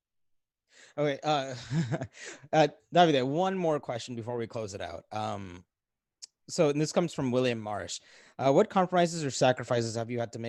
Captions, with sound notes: - Okay (laughs). Davide, one more question before we close it out. And this comes from William Marsh. What compromises or sacrifices